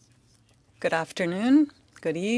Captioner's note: speaking French